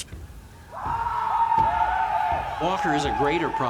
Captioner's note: war cries